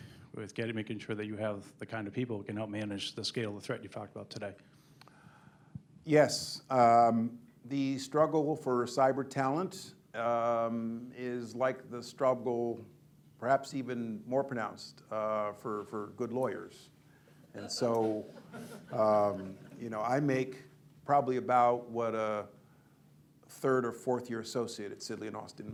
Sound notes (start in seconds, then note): 17.6 laughter